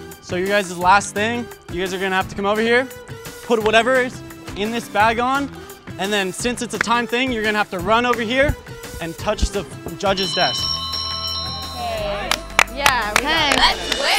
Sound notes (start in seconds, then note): 10.0 bell rings; 12.3 applauds